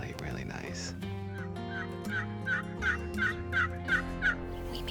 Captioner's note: tool imitates turkey call